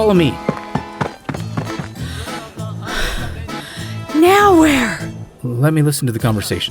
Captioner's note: running; panting